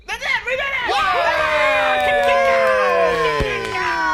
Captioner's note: all cheering